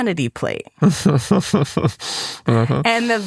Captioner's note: giggles